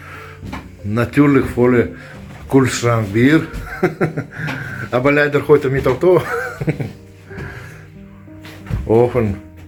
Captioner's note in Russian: смех